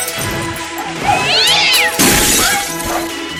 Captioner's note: cat scream